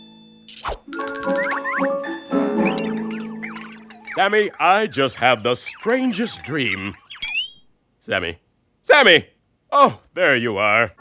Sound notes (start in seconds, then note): 2.6 birds tweet